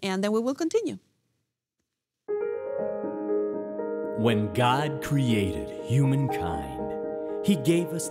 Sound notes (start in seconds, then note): 2.3 soft upbeat music; 4.3 voiceover